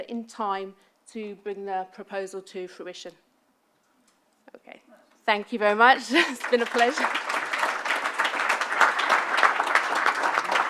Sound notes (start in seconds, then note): 6.1 clapping